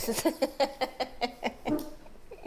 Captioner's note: laughs